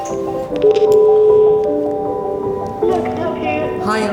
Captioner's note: phone ringing